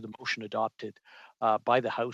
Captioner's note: speaking French